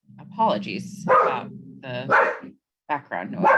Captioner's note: dog continues barking